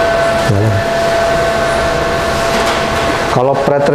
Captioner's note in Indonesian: suara mesin